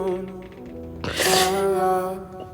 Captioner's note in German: Schniefen